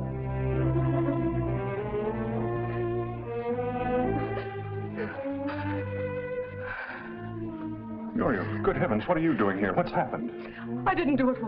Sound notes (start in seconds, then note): 0.2 tense music; 3.8 Mrs. Bronson crying